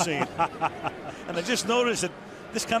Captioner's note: laughs